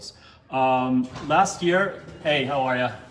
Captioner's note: door opening